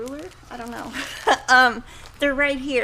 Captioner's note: laughs